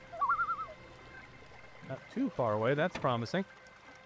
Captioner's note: loon calling